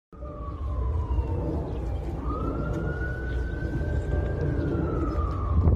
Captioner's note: sound of sirens in the distance